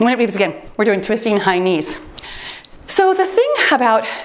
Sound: timer beeps

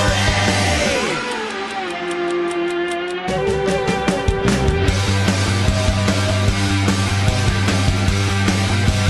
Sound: clock ticking

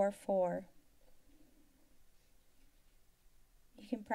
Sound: silence

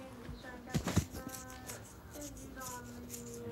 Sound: scratching

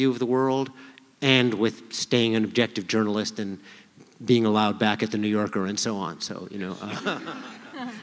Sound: laughter

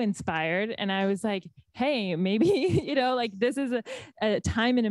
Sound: laughs

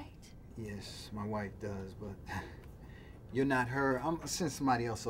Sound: laughs

